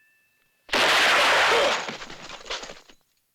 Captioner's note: groans